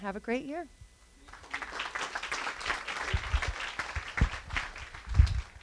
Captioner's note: applause